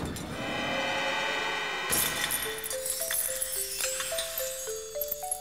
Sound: sound of cracking

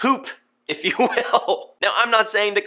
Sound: chuckles

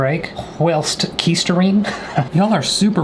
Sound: chuckles

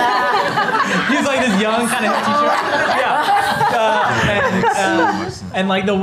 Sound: laughter

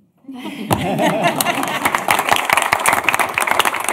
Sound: applause

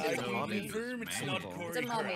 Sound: overlapping chattering

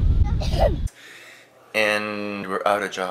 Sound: girl clears her throat

